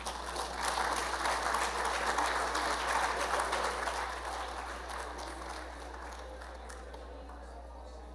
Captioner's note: applause